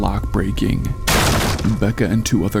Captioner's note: door breaking down